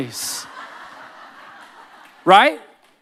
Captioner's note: audience laughing